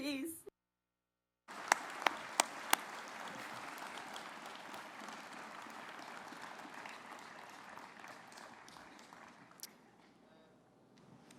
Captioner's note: applause